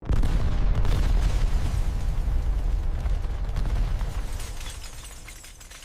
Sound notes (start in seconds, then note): 0.0 sound of explosion